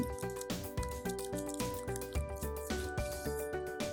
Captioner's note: typing